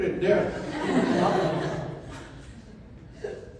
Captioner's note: audience laughter